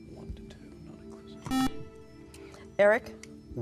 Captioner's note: whispering; beeping